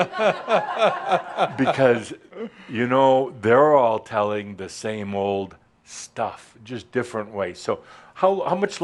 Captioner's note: chuckles